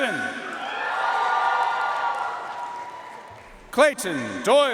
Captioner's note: audience cheering and applauding